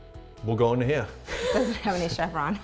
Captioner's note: laughing